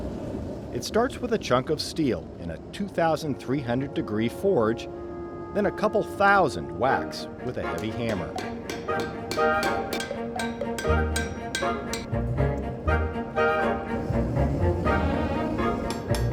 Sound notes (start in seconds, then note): 7.6 hammer strikes; 15.8 hammer strikes